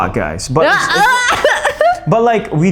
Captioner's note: screams